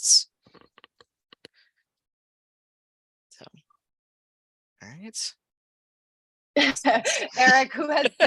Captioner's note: laughter